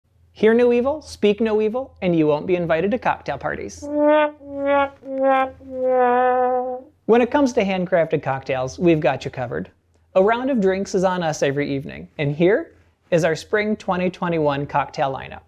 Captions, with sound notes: Hear no evil, speak no evil, and you won't be invited to cocktail parties. *sad trombone* When it comes to handcrafted cocktails, we've got you covered. A round of drinks is on us every evening, and here is our Spring 2021 cocktail lineup.